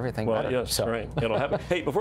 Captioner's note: laughter